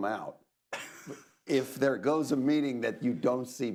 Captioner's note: laughs